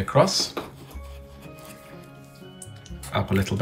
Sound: pen scratching

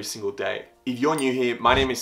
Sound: bell ding

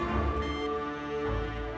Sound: phone beeps

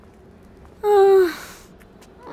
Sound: loud sigh

